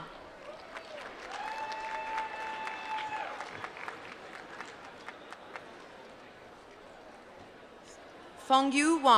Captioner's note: applause